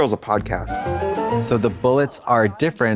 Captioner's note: bright chime